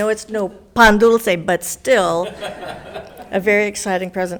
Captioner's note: laughs